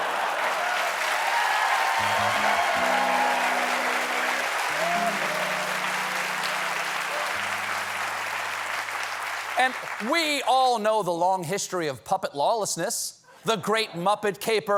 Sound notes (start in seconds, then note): 3.9 applause